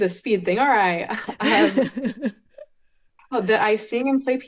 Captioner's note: both laughing